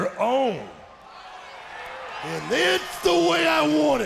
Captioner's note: crowd chatter